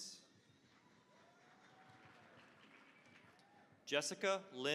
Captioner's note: applause